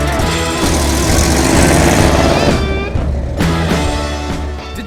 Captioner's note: engine roaring